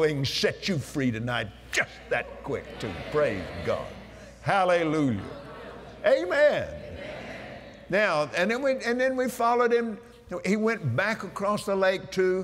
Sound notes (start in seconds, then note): 1.8 audience Agrees; 6.1 audience "Amens"